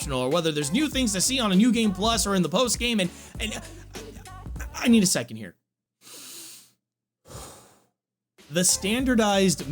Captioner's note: takes breath